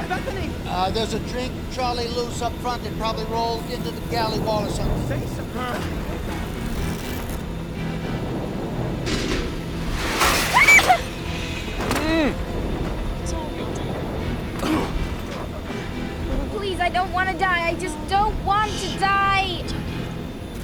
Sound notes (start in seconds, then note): 5.3 groans; 10.4 Dinah Screams; 10.6 moans; 14.4 grunting